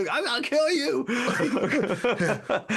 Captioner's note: laughing